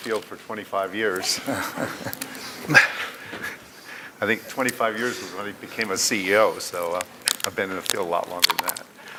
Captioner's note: laughter